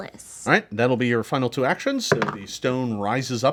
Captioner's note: dice roll